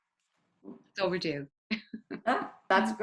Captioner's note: chuckles